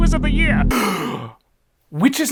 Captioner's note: sharp inhale